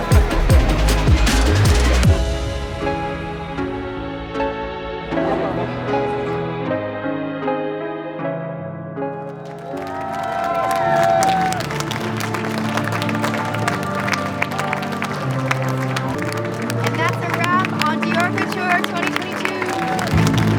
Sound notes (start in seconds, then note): 2.6 piano music; 10.3 hands clapping; 10.3 people cheering